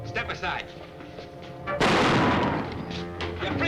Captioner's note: gunshot